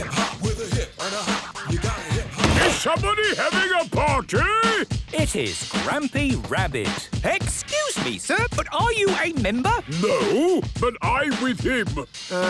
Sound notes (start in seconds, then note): 2.6 shouts